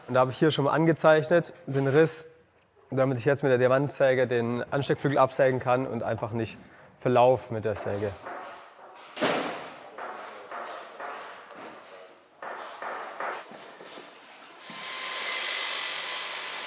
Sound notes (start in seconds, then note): 7.7 clattering and clattering in the background; 14.7 high-pitched whirring